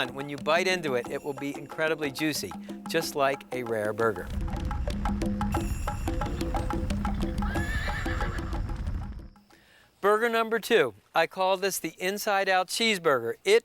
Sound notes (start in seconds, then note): 4.3 fire roaring; 6.2 horse whinnying